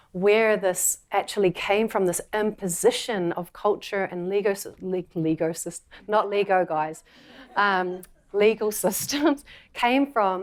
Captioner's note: laughter